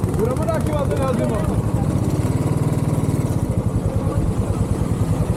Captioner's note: engine noise and background shouting